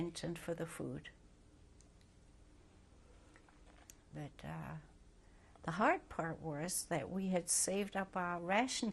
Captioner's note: pauses for 3 seconds